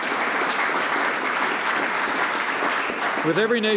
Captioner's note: applause